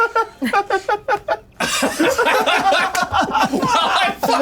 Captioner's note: players laughing